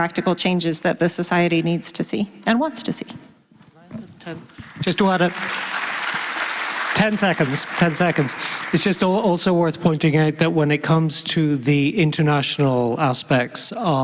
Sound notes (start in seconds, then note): 9.3 applause